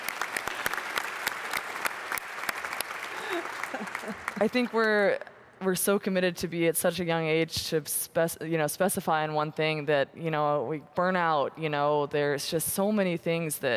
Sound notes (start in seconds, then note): 3.2 applause